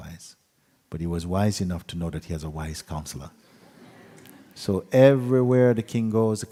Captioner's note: laughter